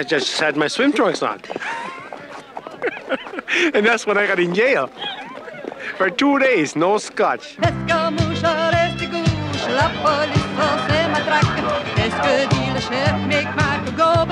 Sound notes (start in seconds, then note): 1.4 laughs; 5.5 laughs; 7.8 woman singing in foreign language